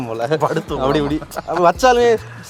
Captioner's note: laughing